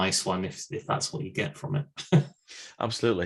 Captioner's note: chuckles